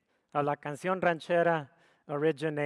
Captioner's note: speaks foreign language